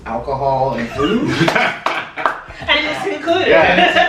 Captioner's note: clapping, laughter